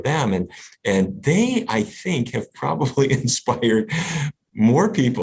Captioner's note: laughs